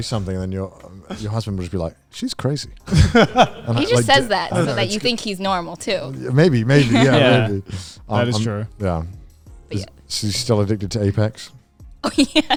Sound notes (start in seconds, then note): 2.8 laughing